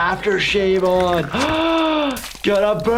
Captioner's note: gasps